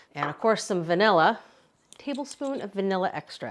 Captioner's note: none